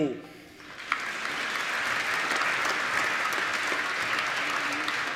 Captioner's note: applause